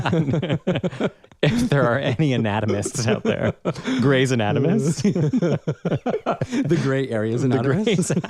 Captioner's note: laugh